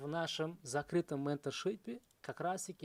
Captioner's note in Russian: none